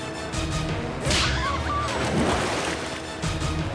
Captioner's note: screaming